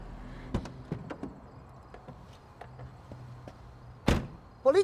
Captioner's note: doors clicking